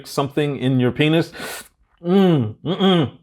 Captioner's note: audible inhale